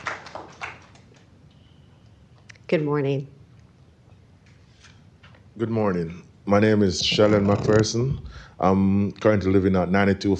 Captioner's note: applause